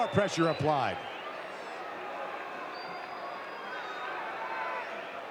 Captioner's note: audience cheering